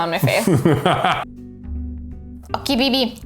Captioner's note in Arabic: ضحكات خافتة